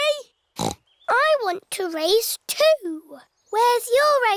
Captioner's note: snorts